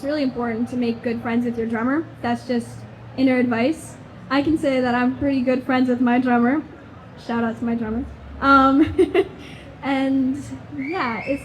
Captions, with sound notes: it's really important to make good friends with your drummer. That's just inner advice. I can say that I'm pretty good friends with my drummer. Shout-out to my drummer. (chuckles) And yeah, (audience member whistles)